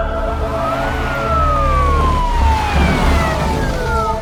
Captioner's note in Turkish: ambulans si̇ren sesi̇